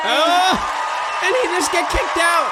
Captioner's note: crowd applauds and cheers, again